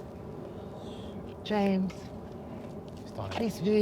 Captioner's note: James faintly speaking